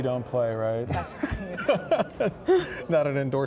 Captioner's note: laughs